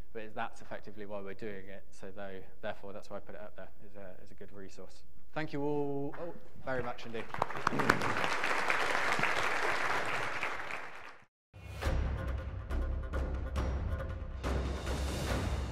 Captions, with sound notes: as that's effectively why we're doing it. Therefore, that's why I put it up there as a good resource. Thank you all very much indeed. (audience clapping) (intense music)